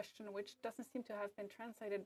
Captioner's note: speaking French